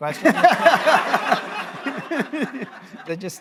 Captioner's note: laughter